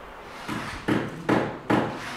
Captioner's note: hammering